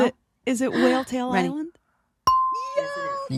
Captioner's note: bell dings